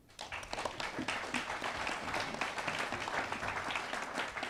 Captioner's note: attendees applauding